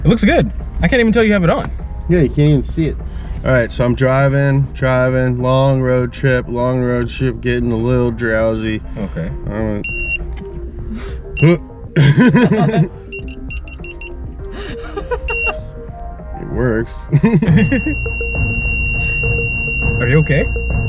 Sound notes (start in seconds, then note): 9.4 beeps; 11.9 staff laugh; 12.2 beeps; 13.0 repeated beeping; 16.8 both laugh; 17.1 prolonged beeping